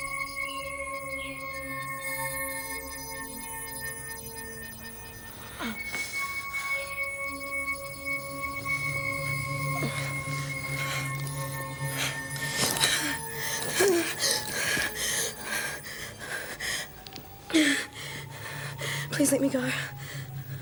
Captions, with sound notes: (groaning) (panting) - Please let me go.